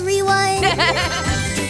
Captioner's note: laughs; transition tones